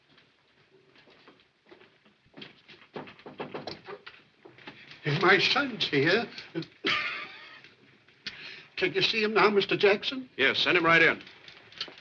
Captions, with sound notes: [ light knocking ] My son's here. [ Coughs quietly ] Can you see him now, Mr. Jackson? Yes, send him right in.